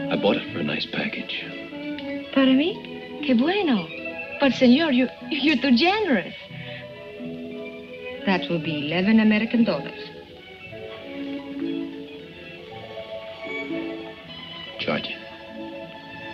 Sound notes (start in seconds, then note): 2.9 woman speaking in foreign language